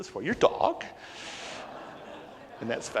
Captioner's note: crowd awws